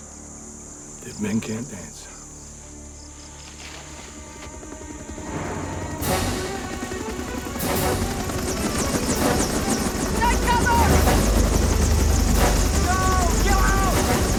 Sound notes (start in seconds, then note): 4.3 helicopter Whirring